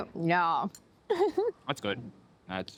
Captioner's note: giggles